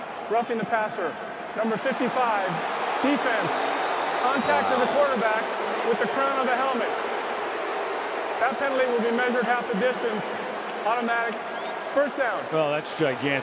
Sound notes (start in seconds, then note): 2.8 booing